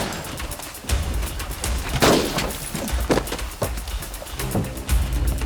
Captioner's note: firing continues